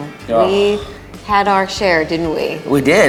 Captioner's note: laughing